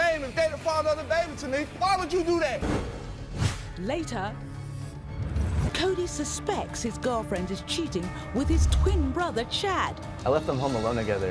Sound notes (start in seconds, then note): 3.5 voiceover